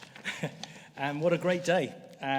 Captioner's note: laughs